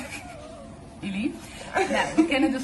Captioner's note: giggling